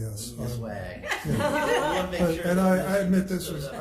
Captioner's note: members laugh